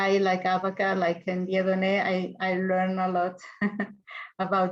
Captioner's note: laughs